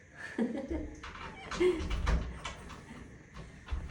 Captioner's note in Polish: śmiech